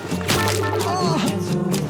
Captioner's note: pained Groan